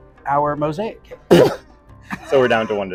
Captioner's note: coughing